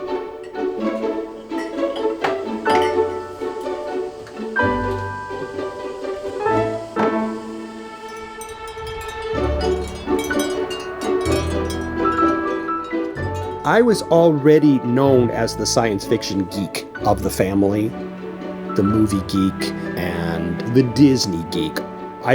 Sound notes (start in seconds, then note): 2.2 cups clattering; 10.0 wind chime clinks